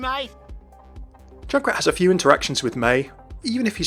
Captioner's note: voiceover